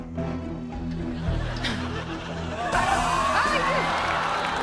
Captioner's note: audience laughs